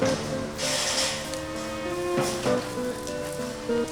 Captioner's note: pulling hole in wire open